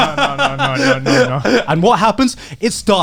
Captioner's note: laughs